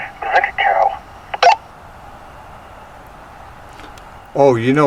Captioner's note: radio beeping